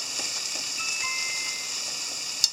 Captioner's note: chime